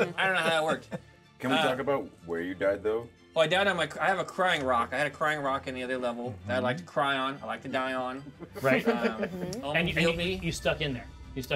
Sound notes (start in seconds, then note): 8.3 speaker laughs